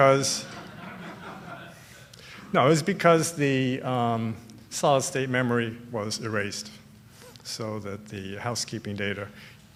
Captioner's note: laughter